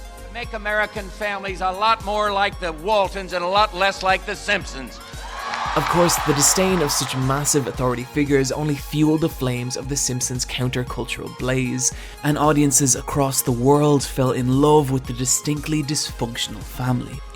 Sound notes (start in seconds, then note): 5.0 crowd cheering